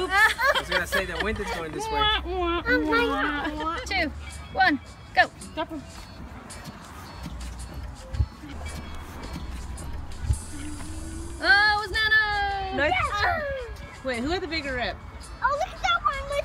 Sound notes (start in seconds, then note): 0.7 laughing